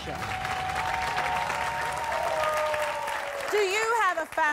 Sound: cheers

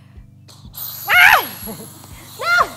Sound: air hisses loudly

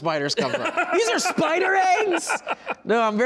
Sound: laughing

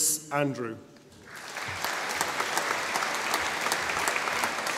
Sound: audience applauding

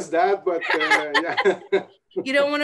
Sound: laughs

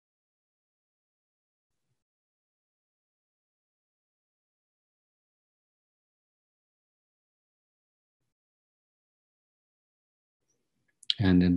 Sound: silence

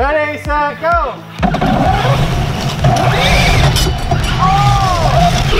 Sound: cars whirring

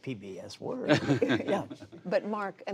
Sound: laughter

